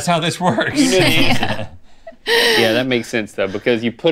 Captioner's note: laughter